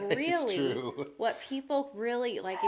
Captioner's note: laughs